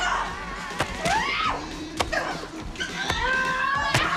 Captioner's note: screaming